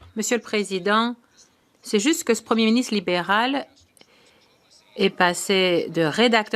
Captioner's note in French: voix de l'interprète